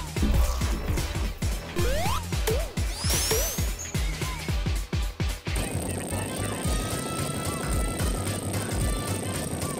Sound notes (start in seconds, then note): 1.7 mini-Explosions